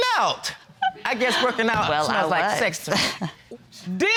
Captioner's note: chuckles